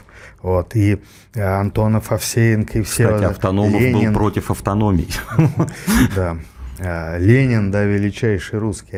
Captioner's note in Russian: смех